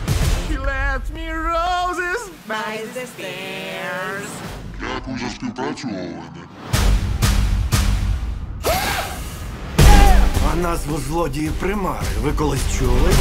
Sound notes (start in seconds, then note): 4.4 distorted voice; 8.6 screams